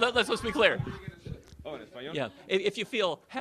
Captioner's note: laughter